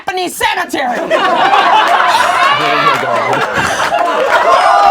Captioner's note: laughing